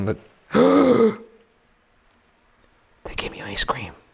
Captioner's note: gasps